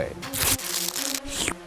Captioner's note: plastic crunches; slurps